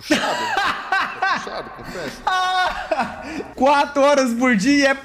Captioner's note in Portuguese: risos